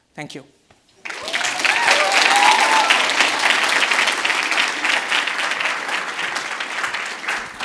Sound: audience applauds, exits stage

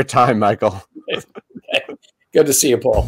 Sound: laughing

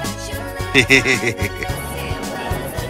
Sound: giddy laughter

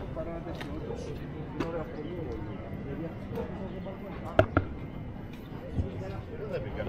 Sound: people chattering

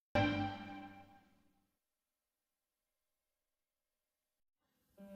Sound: silence

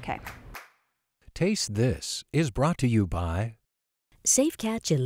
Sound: voiceover

